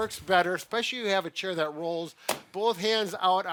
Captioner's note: hands thwap